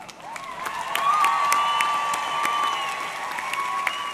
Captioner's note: audience clapping; audience cheering